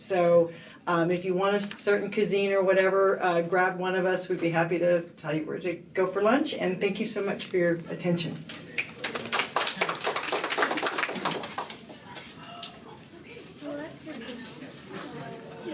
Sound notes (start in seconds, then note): 8.7 applause